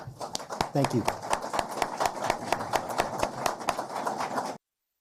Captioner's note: applause